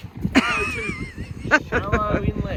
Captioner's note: laughs